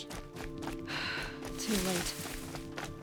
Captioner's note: sigh